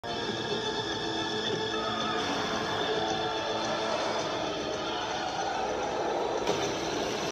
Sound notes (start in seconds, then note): 0.0 dramatic music; 2.0 tires screeching; 4.0 crowd screaming